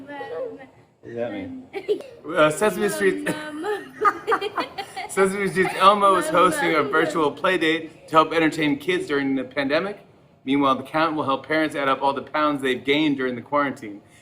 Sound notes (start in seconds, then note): 2.9 laughter